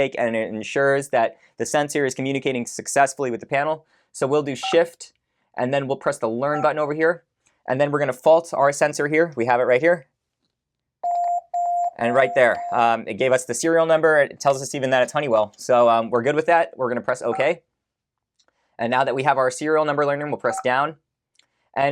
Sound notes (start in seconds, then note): 11.0 beeping